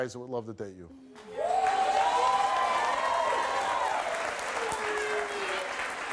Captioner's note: audience cheers and claps